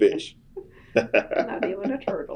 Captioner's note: laughter